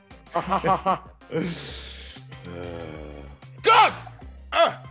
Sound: laugh

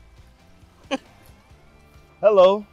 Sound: laughs

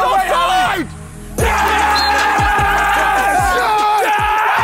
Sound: all cheering

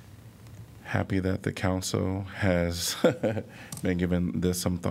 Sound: laughter

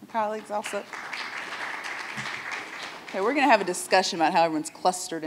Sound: audience applauds

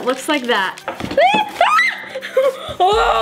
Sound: screams

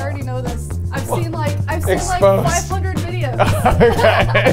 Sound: laughing

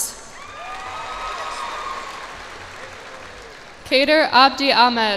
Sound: cheers and applause

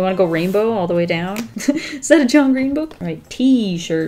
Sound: giggles

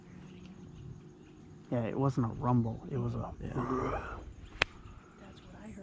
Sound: growl

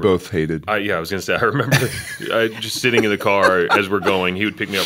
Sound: laughter

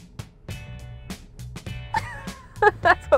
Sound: laughing

